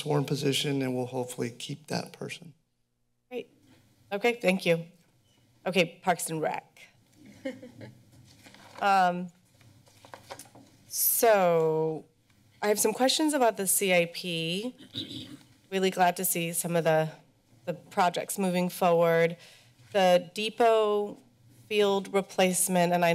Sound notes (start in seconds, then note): 7.2 laughter